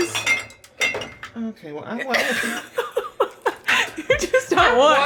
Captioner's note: clinking; laughing